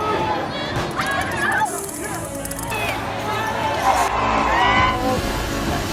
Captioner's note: screams